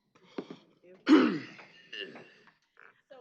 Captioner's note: coughing